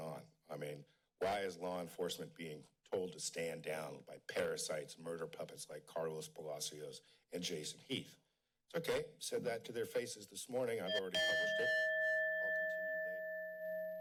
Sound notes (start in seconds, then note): 10.8 chime